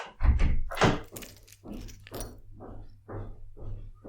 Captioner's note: door opens and closes, keys rattle; steps